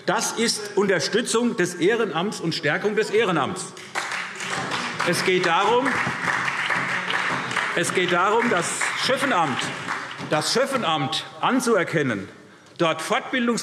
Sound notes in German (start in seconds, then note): 3.7 Beifall SPD